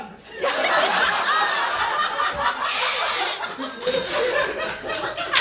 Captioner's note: audience laughing